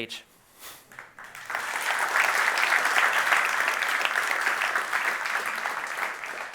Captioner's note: applause